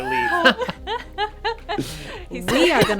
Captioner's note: laughing